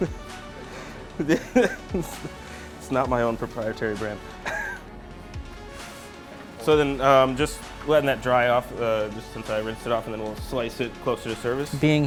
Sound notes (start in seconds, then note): 0.6 laughs; 4.4 laughs